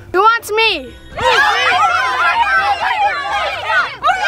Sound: boys yelling

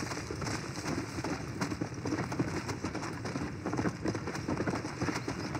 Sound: galloping horse

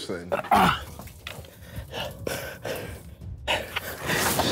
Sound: panting

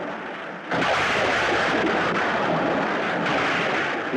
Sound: thunder Rumbling

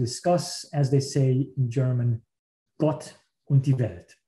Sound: speaking in foreign language

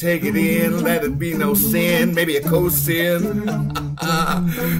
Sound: laughs

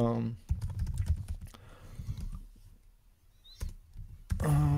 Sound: keyboard clacking

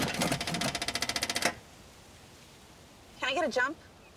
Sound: engine cranking

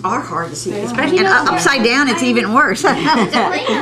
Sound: laughter

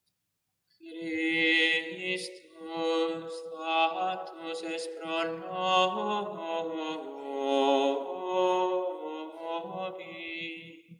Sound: chant

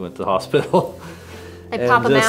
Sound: both laugh

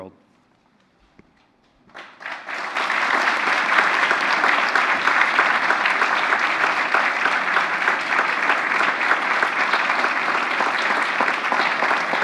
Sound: applause

